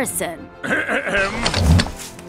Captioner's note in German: Räusper